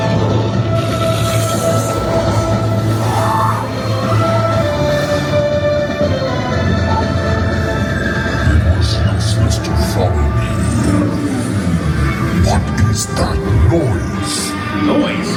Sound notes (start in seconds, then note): 9.8 deep Voice